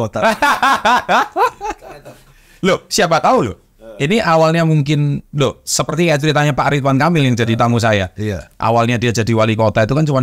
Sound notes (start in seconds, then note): 0.2 laughs